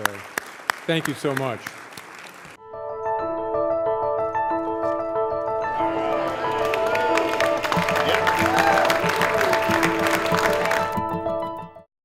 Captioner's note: brief applause